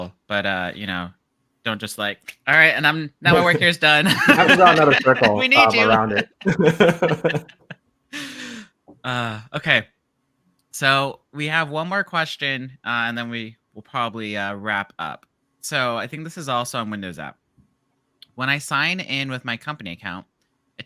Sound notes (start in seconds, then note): 4.0 chuckles; 6.9 all laugh